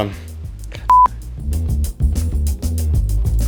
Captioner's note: beep